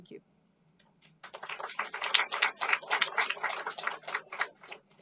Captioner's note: applause